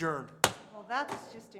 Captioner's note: gavel bang